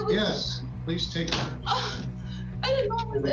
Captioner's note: gasps